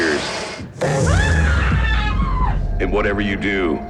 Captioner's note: woman screams